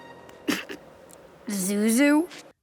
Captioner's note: chuckles